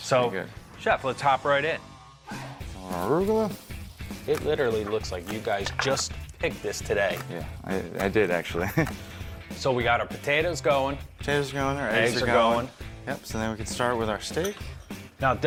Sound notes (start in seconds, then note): 8.5 laughs